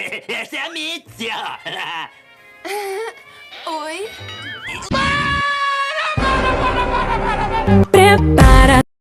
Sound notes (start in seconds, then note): 1.7 chuckle; 2.6 girl chuckle